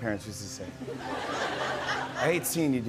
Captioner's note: laughter